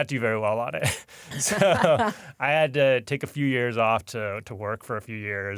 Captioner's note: chuckles